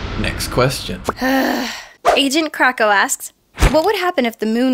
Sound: sigh

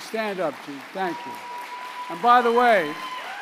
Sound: applause

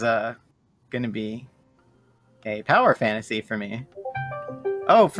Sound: discord ringtone

